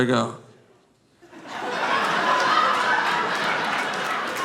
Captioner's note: audience laughing